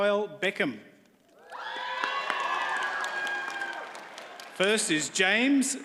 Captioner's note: audience cheers and applauds